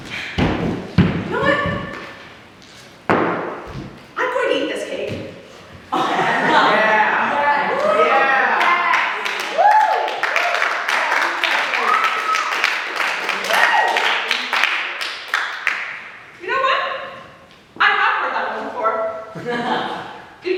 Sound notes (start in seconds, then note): 6.1 audience reaction and applause